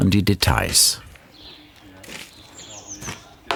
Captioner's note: birds chirping